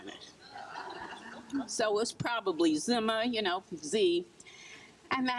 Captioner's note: crowd laughs